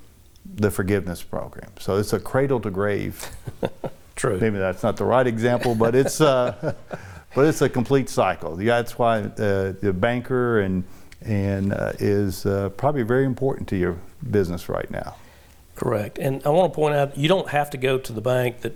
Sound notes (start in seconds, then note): 3.2 laughs